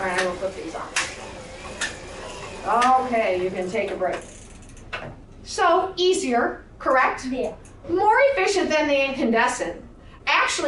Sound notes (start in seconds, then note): 0.9 switches flipping